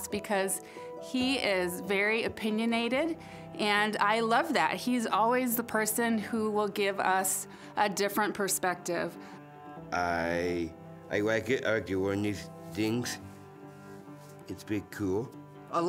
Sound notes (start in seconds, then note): none